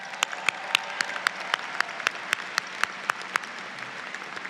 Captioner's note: audience applauds